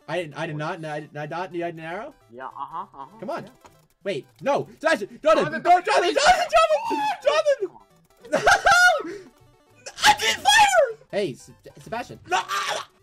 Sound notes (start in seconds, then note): 6.6 screams; 12.3 gags